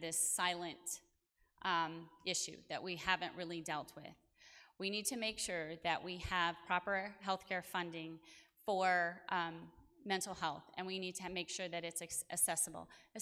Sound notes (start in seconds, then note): none